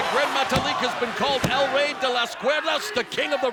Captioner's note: speaks Spanish